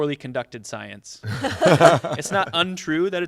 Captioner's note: laughter